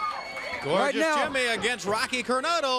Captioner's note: crowd cheering